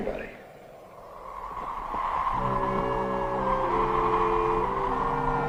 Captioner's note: wind blowing; ominous music